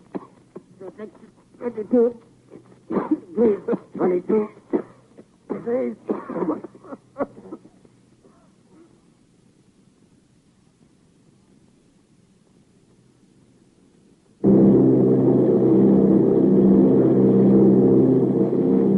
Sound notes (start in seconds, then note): 2.8 coughing; 14.5 airplane motor whirring